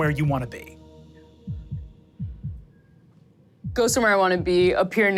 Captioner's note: heart beating